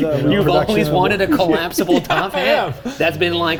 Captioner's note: laughing